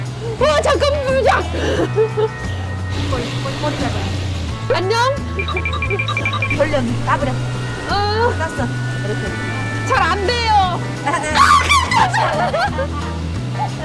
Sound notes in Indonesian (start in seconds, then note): 5.9 tertawa